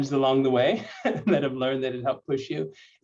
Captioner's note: laughter